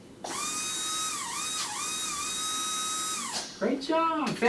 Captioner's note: brush whirring